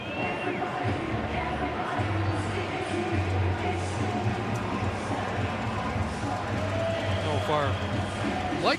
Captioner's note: crowd noise